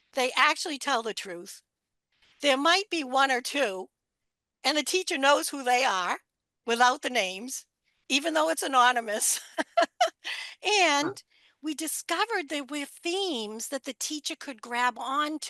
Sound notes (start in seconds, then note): 9.3 laughter